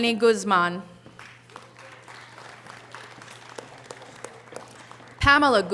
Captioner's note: audience applause